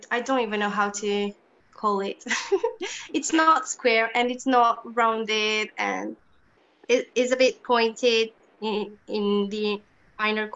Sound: chuckles

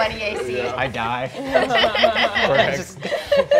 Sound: all laughing

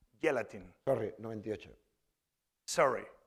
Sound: speaking spanish

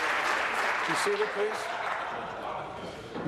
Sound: applause

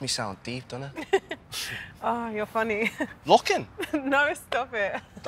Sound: laughs

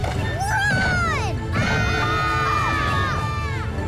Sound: screaming

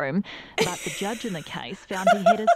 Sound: snickering

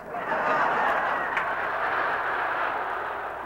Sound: laughter

